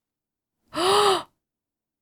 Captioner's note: gasp